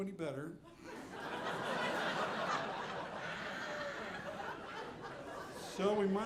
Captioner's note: audience laughing